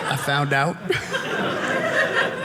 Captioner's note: audience laughing